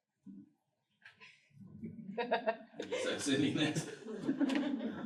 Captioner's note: laughter